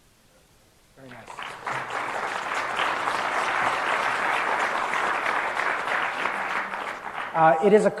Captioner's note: applause